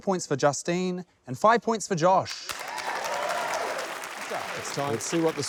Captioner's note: cheers, applause